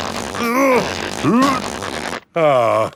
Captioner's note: grunting